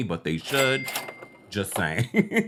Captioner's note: caching sound